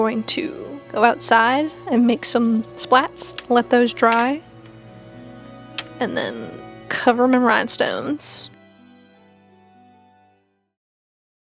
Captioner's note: dried glue peeling off paper